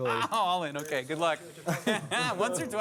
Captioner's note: laughter